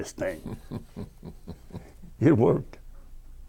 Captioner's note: chuckling